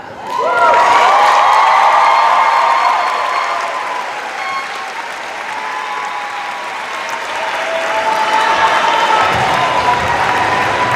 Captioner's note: cheers and applause